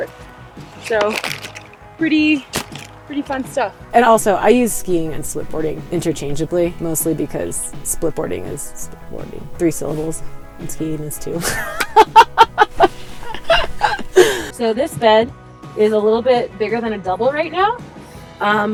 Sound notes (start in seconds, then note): 11.4 laughter